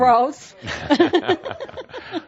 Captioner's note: she giggles